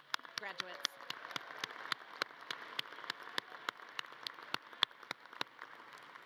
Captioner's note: audience cheering and clapping